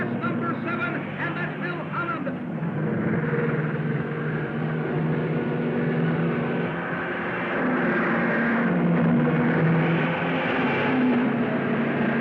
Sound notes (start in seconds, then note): 3.7 cars revving